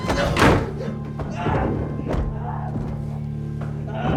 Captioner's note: screaming